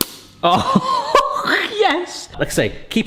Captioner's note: laughs